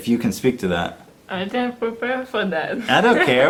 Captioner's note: laugh